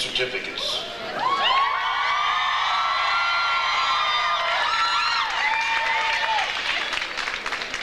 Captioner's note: audience cheers; audience applauds